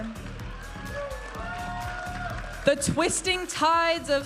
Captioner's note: audience applauding and cheering